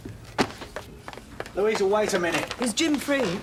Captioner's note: rapidly approaching footsteps